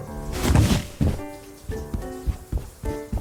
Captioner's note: scrambles out of bed; hurried steps